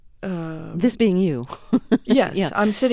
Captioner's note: soundbite of laughter